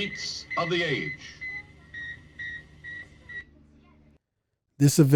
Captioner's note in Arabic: صافرة الأقمار الصناعية